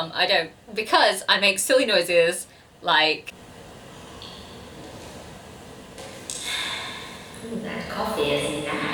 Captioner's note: distorted slurp; distorted swallowing